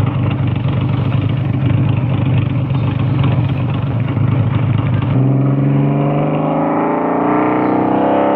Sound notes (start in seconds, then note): 3.8 engine Revving